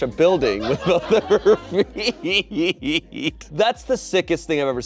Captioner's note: laughs